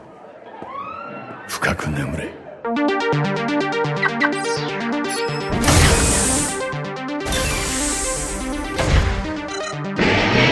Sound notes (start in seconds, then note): 0.8 background screams; 5.5 door opens; 7.2 door closes; 10.0 engine starts up